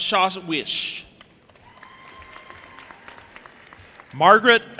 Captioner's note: audience applauding and cheering